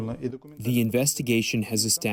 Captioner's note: through translator